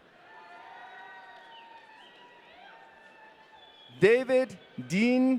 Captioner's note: audience cheering